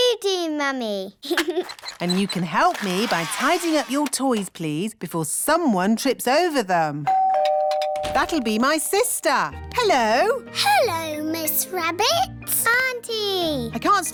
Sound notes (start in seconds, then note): 1.2 giggles; 7.0 doorbell rings